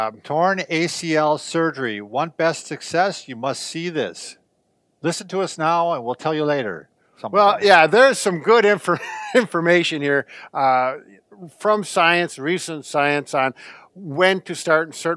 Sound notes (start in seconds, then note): 10.8 laughs